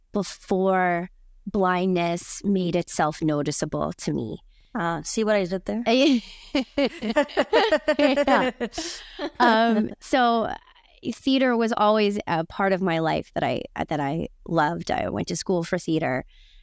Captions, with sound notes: before blindness made itself noticeable to me. - Ah, see what I did there. (both laughing) - So theater was always a part of my life that I loved. I went to school for theater